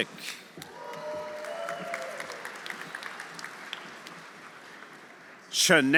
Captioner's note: audience applauding; audience cheering